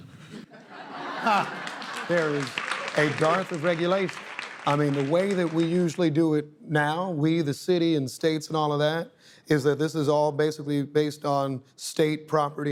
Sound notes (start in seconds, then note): 3.1 laughing